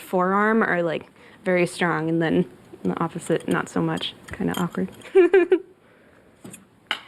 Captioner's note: giggles